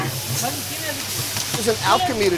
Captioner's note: food sizzling